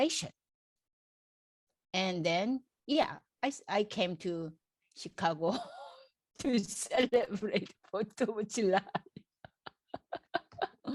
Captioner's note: laughs